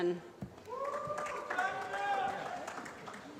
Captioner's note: applause